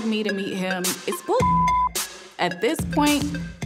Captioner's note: beep